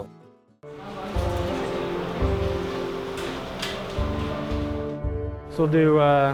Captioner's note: sounds of equipment being prepped